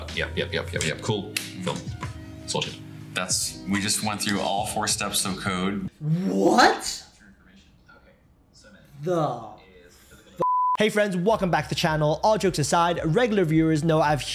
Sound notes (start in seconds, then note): 10.4 signal bleeping